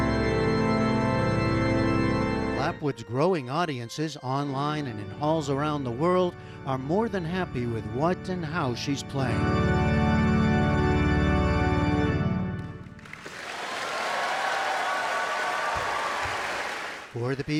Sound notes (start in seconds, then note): 11.3 cheering